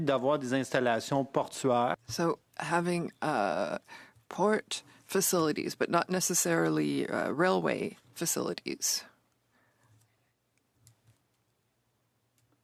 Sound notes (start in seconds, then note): 6.6 speaking French